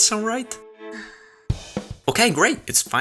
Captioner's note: sighs